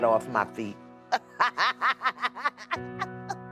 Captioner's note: laughing